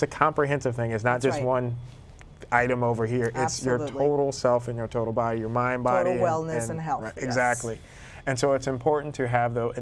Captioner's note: speaking in spanish